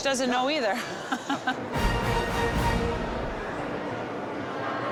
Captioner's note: laughs